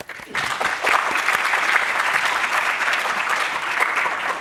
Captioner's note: applause